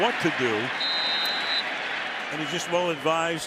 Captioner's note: whistle blows